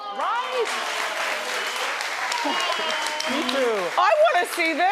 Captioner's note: audience cheering